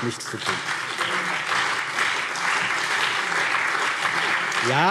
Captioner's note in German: Beifall BÜNDNIS 90/DIE GRÜNEN und vereinzelt CDU